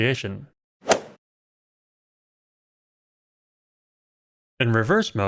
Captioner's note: golf ball hit sound